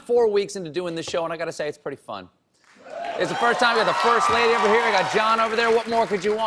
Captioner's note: cheers and applause